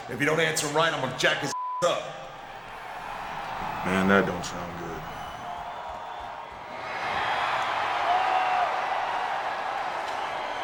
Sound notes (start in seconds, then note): 1.5 beep; 6.3 crowd cheering